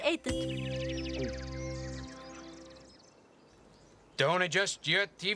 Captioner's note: birds chirping